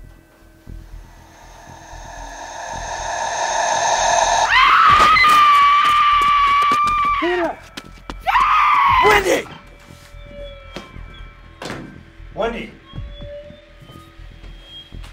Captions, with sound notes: (screams) Peter! Wendy! Wendy.